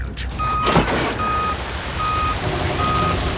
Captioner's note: beeping